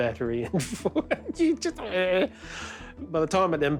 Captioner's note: laughs